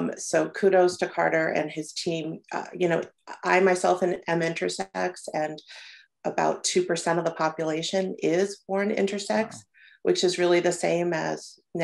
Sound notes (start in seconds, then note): none